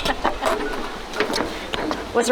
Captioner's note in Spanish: Risas